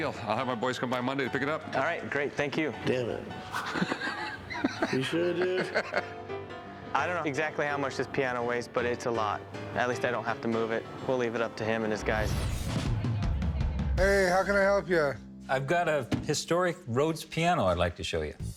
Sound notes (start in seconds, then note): 3.4 laughs